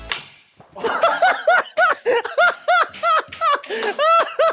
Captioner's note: laughing